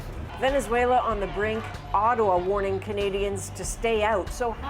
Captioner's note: speaking spanish